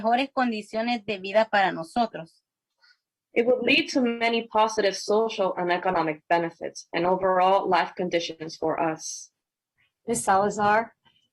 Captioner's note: spanish